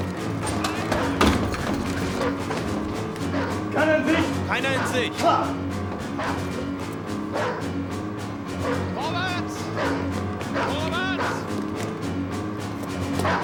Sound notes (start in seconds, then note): 4.3 speaking german